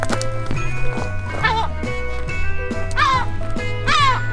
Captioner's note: seagull screeching